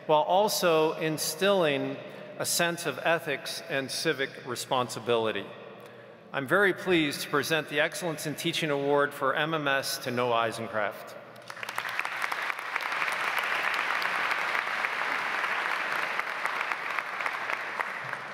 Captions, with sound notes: while also instilling a sense of ethics and civic responsibility. I'm very pleased to present the excellence in teaching award for MMS to Noah Eisenkraft. (audience applauds)